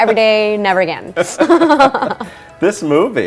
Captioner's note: laughter